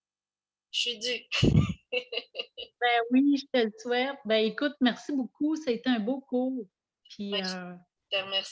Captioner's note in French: rire